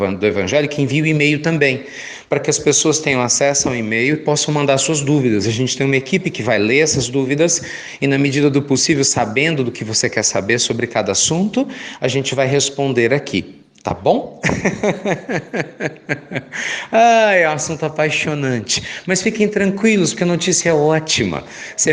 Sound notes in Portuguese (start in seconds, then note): 14.4 Risos